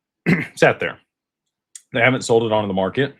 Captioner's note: clears throat